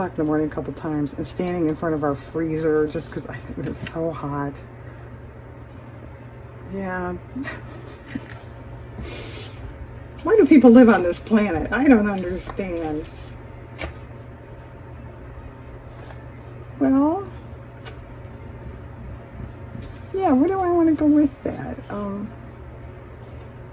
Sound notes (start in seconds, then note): 7.4 laughs